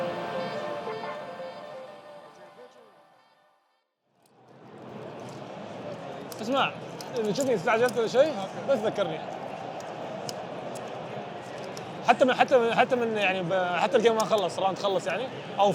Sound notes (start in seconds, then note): 6.3 in Arabic